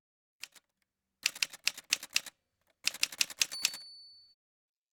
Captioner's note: typewriter sounds